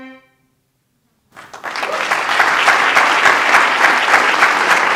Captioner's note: applause